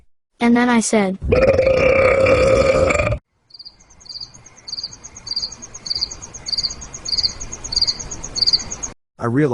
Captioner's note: loud belch